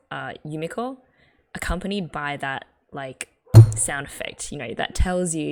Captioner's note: hits table